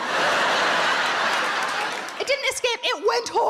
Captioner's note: audience laughs